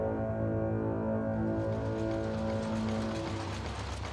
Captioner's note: machinery clacking